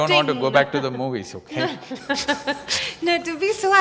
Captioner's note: Juhi Laughs